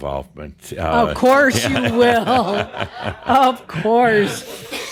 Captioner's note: laughter